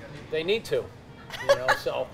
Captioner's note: laughs